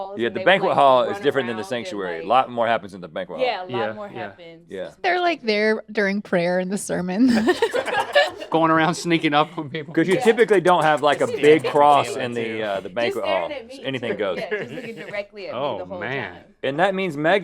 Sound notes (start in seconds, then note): 7.2 laughing